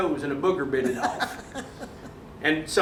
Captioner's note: chuckling